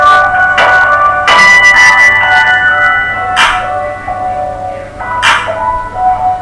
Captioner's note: phone ringing